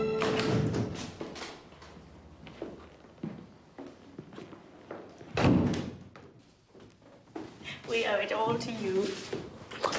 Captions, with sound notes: (door opens) (door bangs) - We owe it all to you.